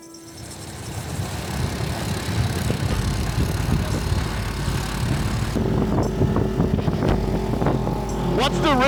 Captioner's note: ATV driving sounds